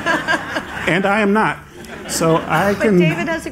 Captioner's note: laughter